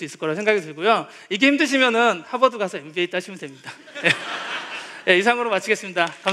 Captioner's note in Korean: 웃음